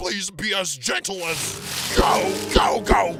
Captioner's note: rustling